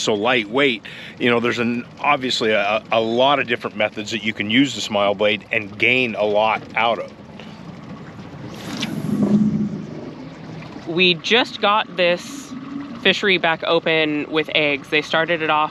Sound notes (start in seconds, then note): 8.6 rod whipping; 9.6 reel spinning